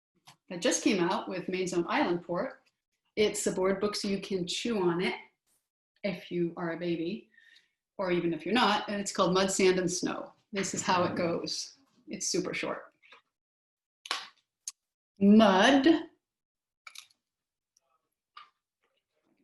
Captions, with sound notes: That just came out; we made some for it. It's a board book, so you can chew on it... If you are a baby, or even if you're not, and it's called "Mud, Sand and Snow." This is how it goes. It's super short. Mud. (silence)